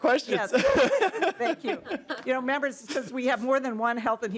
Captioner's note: laughing